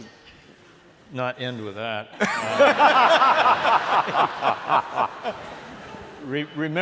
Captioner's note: laughter